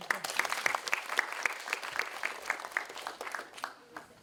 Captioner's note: audience applauding